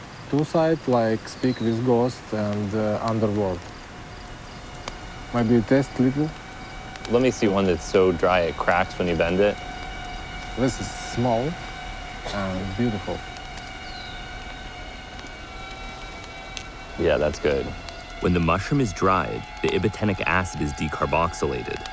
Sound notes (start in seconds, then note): 16.2 crack